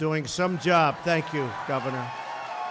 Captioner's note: applause